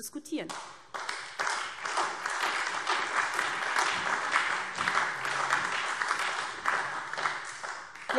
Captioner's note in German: Beifall SPD und Freie Demokraten